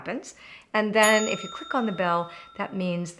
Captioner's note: pinging